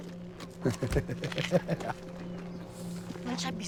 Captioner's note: laughing